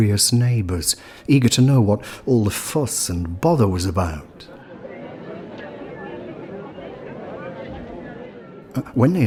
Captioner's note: sounds of crowds chattering